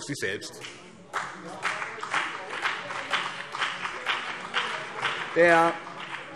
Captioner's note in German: Beifall BÜNDNIS 90/DIE GRÜNEN und CDU